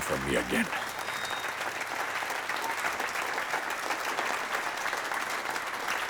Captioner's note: audience continues applauding